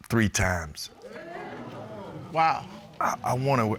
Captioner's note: audience hooting